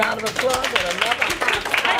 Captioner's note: clapping